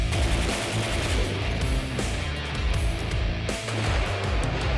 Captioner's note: rapid gunfire; dramatic music; cannons firing